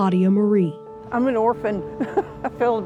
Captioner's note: chuckles lightly